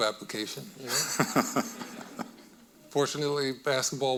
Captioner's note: audience laughing